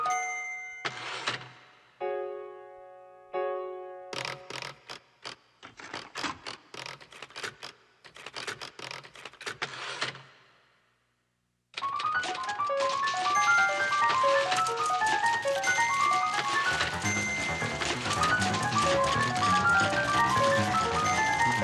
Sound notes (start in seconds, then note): 0.0 typewriter carriage dings; 0.3 typewriter carriage rattles; 4.1 typewriter carriage rasping; 12.0 somber piano music; 16.5 typewriter carriage dinging; 16.5 typewriter clacking